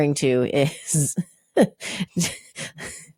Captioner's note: laughs